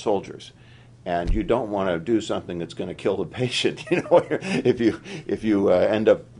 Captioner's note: laughter